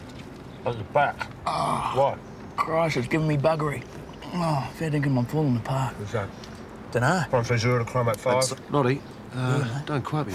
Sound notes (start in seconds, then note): none